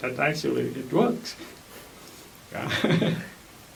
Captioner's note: laughs